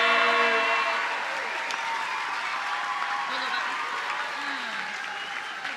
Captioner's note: audience cheers and applauds